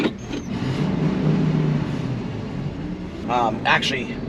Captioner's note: engines revving